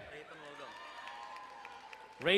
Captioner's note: crowd cheering and applauding